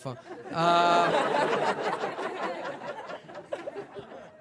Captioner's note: audience laughing